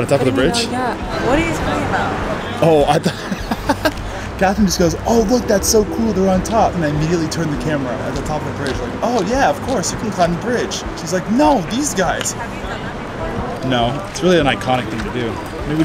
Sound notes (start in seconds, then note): 2.6 laughing; 12.5 passersby murmuring